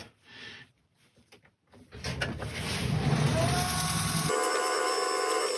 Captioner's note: woodturning sounds